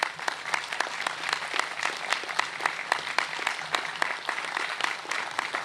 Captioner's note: applause